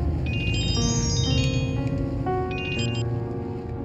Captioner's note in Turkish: Telefon çalıyor